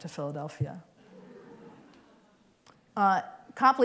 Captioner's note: laughter